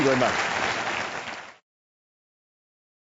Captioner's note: applause